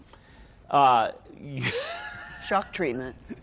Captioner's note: laughter